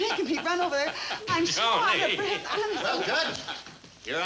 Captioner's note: laughing